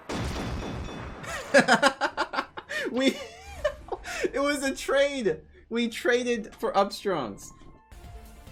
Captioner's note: laughing